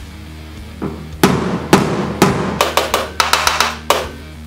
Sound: thuds

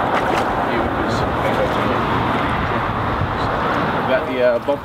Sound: conversing quietly

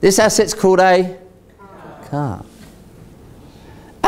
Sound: audience Members In Unison

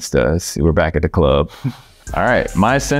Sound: chuckles

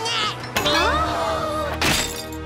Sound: collective gasp

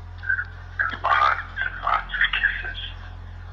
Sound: recorded Voice

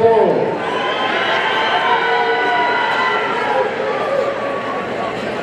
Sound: audience cheering

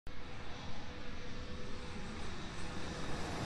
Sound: airplane whooshes

